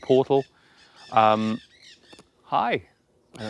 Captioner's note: sound of birds